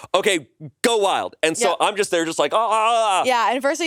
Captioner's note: yells